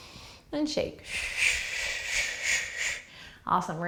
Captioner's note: exhaling breaths